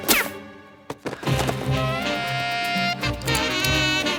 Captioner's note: gun fires; dramatic music